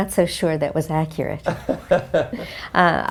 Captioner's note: laugh